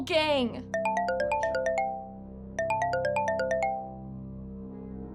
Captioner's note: phone rings